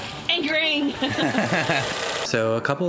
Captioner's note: both laughing